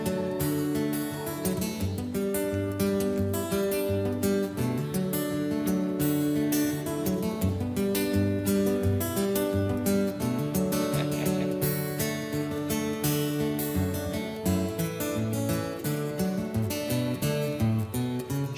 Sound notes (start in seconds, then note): 10.7 laughing